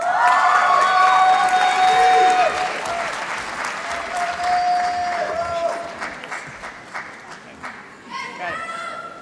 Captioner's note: applause